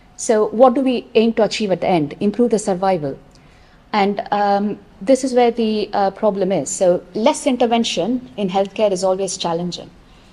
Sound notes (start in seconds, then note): none